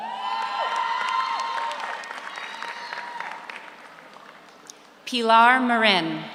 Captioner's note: audience cheers; audience applauds